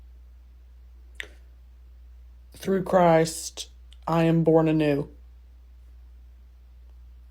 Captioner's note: tongue click